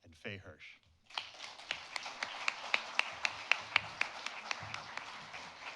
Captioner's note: audience applauding